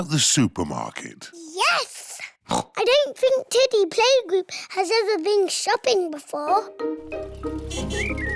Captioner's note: oinks